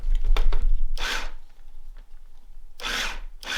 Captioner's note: whirring